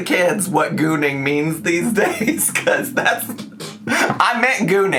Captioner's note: laughs